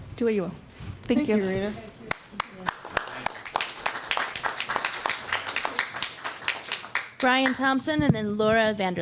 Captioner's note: applause